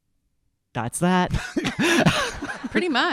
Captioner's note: audience laughing